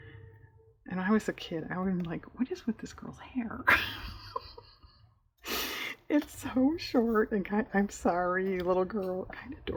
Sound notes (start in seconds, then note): 3.7 laughs